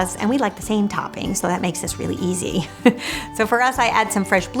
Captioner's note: laughs